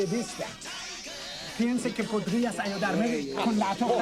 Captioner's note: speaking Spanish